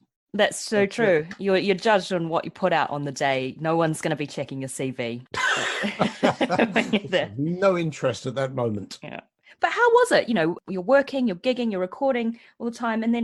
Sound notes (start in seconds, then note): 5.5 laughs